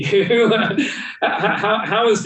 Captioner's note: laughing